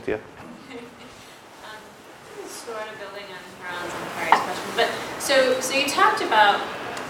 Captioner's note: laugh